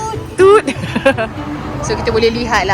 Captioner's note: laugh